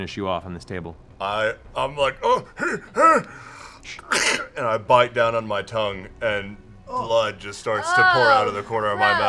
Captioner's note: grunts